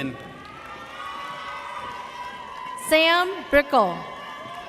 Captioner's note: audience cheers